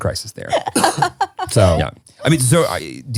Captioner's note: laughing